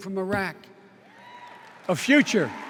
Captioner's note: cheers and applause